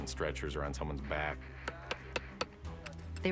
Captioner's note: tapping